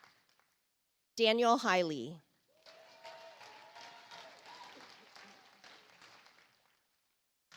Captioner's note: audience applauds